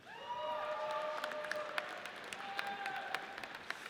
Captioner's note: audience cheers